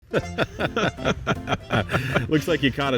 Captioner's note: men laughing